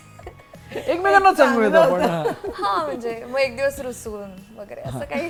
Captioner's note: chuckles